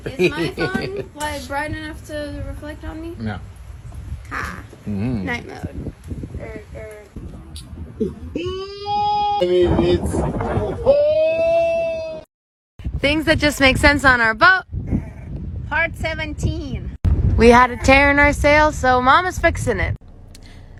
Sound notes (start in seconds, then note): 8.0 hilarious slow-mo OHHH